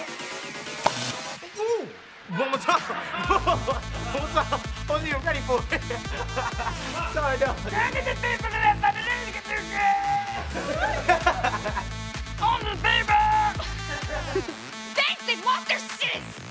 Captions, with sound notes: Ooh, one more time. Whoa, one more time. I wasn't even ready for it. [laughing] [screaming] [laughing] Only the people! Thanks, they've lost their sizz!